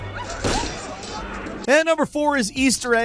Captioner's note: gun firing